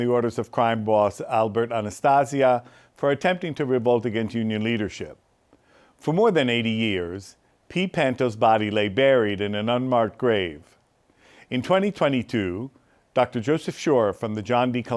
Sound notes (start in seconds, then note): none